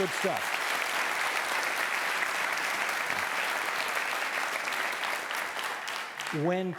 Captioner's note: audience applauding